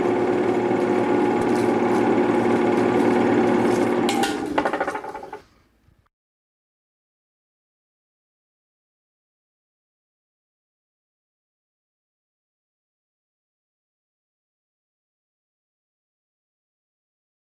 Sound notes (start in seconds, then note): 4.4 projector stops